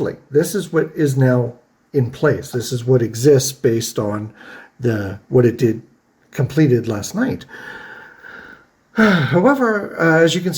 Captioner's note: sighs